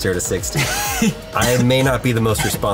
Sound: laughs

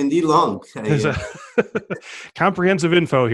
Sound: laughing

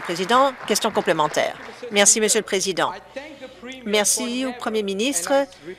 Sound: applause

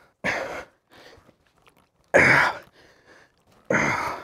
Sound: grunting

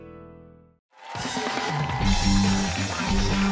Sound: cheers and applause

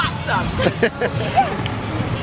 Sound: laughs

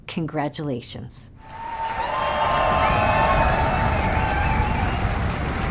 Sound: people cheering

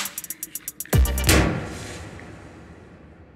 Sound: balloon bursts

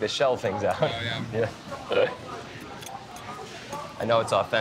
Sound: chuckles

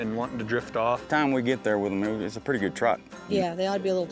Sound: none

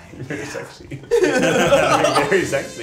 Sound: laughing

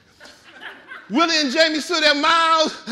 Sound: audience laughing

